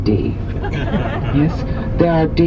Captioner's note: passengers laughing